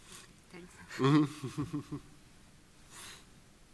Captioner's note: laughs